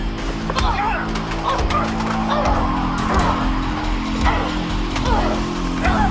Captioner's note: grunts; shouts